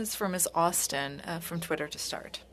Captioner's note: speaking French